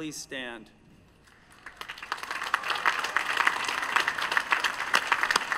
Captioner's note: applause